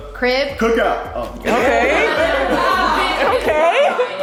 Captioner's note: guests laugh